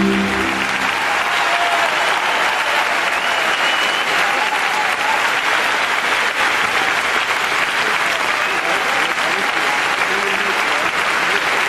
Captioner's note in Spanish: aplausos y ovación